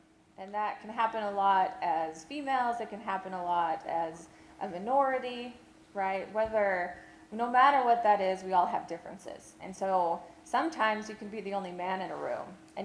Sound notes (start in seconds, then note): none